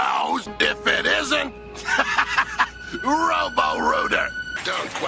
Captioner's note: laughter